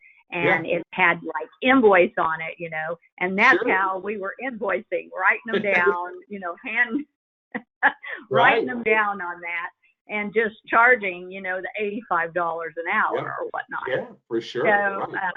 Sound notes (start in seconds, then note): 5.4 laughs